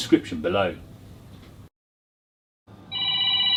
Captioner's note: phone Ringing